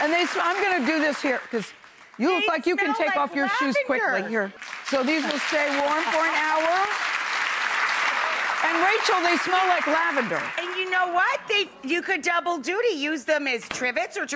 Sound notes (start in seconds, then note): 6.9 audience applauds